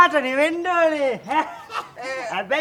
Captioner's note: laughs hysterically